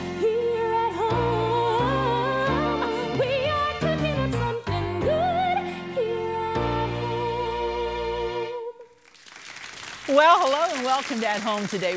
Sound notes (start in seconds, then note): 9.0 audience applauding